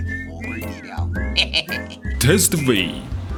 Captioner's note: laugh